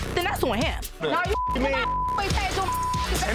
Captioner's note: beep